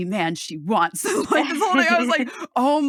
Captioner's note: laughs